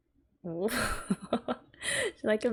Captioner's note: laughs